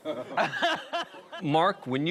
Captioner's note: group laughing